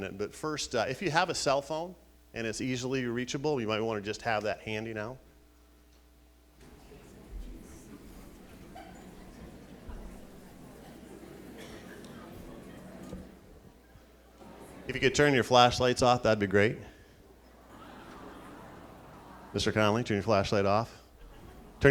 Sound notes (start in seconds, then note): 7.9 crowd chattering